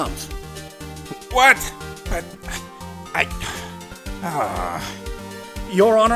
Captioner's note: sigh